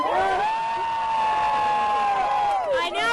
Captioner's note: cheering